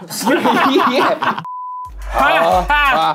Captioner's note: all laughing; test beeping